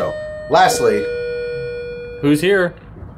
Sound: door bell

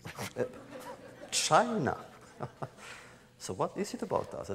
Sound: laughter

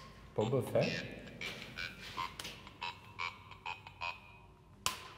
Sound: Ovilus buzzing

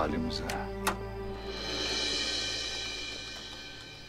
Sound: sound of door opening

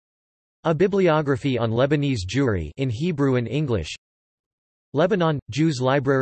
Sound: in Hebrew and English

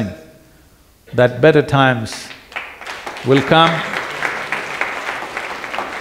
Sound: applause

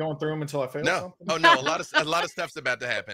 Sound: laughing

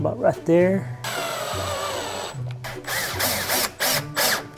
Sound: drilling sound

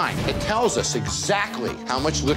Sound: scanner beeping

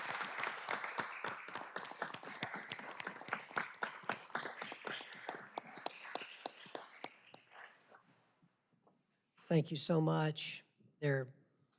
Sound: applause

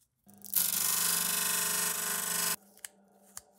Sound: disk sander grinding

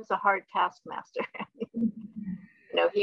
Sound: laughing

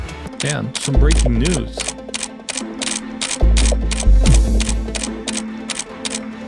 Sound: camera shutter clicking

